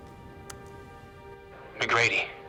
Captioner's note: brooding music; button clicks